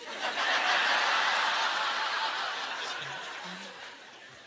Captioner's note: audience laughter